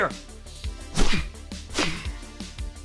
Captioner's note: aggressive exhaling